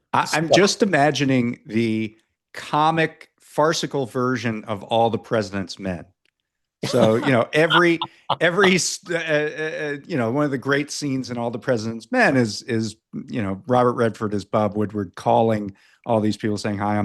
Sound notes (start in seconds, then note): 6.8 laughs